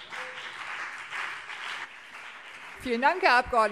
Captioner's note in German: Beifall CDU und BÜNDNIS 90/DIE GRÜNEN